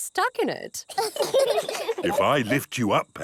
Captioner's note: children laugh